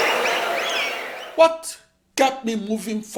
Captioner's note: wild applause and cheering for 22 seconds